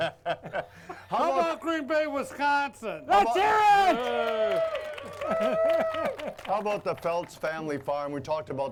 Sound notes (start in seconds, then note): 3.2 audience cheering